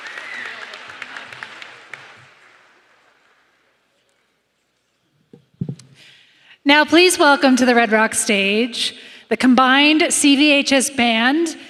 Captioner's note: applause